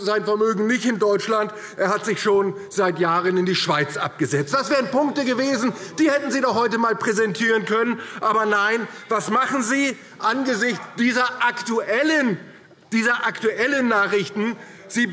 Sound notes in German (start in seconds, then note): none